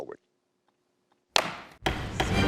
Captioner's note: gavel thuds